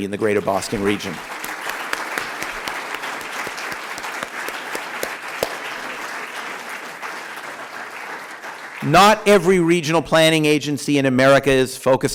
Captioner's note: applause